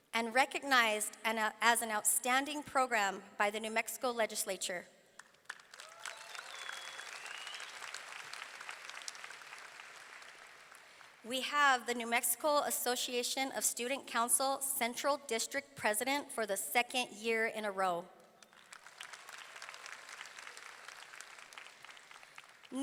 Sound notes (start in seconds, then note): 5.1 audience clapping; 5.7 audience cheering; 18.4 audience clapping